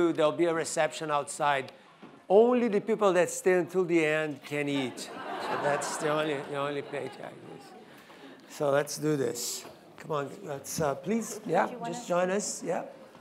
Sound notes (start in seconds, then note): 4.8 audience laughing